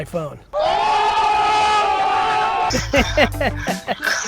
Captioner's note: yelling; laughs